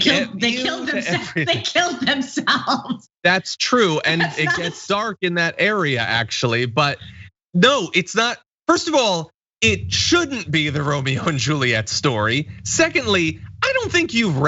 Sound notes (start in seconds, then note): 0.0 laugh